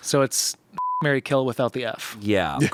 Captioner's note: beep